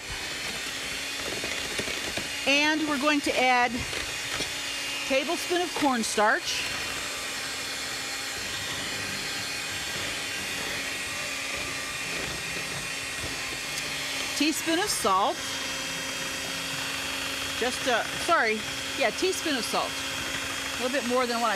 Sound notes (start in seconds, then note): 6.6 blender Whirring